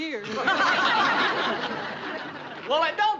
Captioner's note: residents laugh